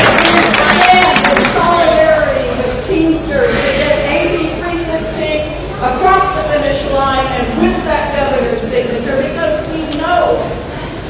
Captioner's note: applause